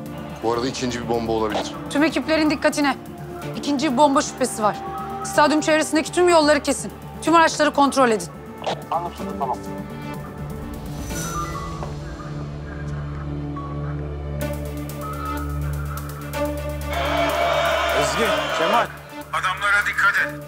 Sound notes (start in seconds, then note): 10.9 radio sounds; 14.3 tension music continues